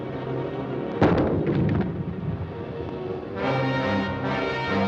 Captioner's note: booming